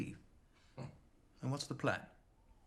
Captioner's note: Max chuckles